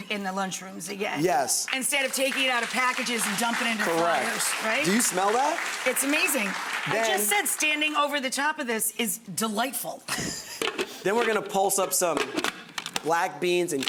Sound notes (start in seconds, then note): 1.6 applause; 4.4 applause; 10.4 laughs